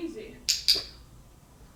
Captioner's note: click